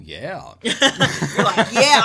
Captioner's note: laughs